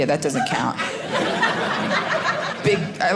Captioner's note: audience laughing